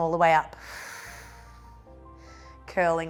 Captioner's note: inhales